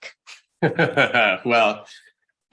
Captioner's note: laughs